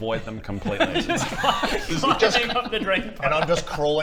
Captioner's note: laughs